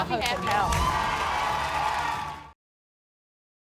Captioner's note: applause